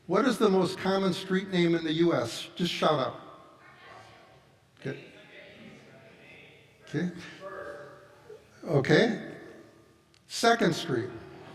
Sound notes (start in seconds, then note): 4.9 audience chattering